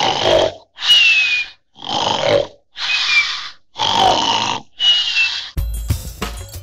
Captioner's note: snoring; fill music